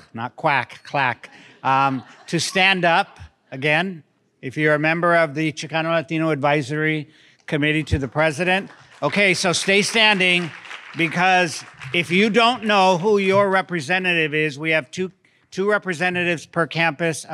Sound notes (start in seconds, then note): 1.7 scattered laughter; 7.6 audience clapping